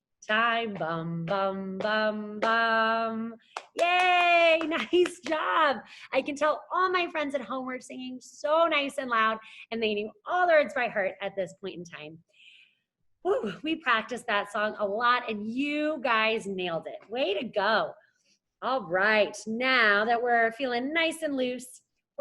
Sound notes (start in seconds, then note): 3.5 claps